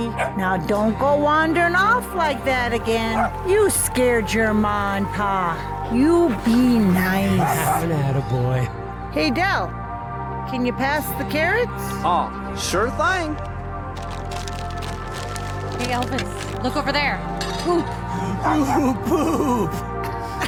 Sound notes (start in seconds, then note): 3.0 Elvis barks; 13.8 paper crinkling; 13.9 utensils clanking; 20.2 all laughing; 20.2 wistful music